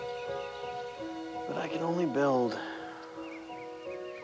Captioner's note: sighs